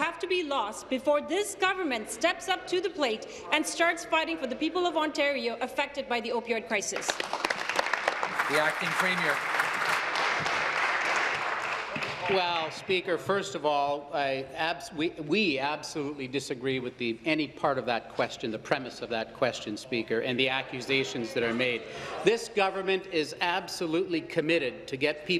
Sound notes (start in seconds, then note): 10.1 applause